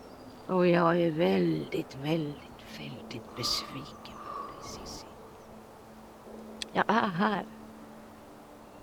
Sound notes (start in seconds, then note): 4.1 A bird caws; 6.7 eerie ambient music